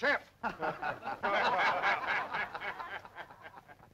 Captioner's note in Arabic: الرجال يضحكون